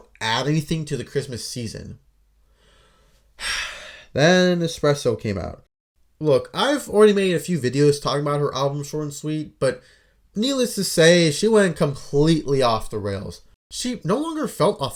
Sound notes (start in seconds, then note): 3.3 sigh